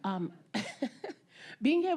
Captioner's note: laughing